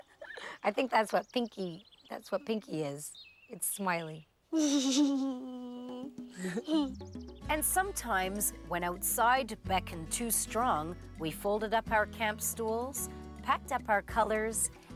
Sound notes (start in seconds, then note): 4.5 chuckling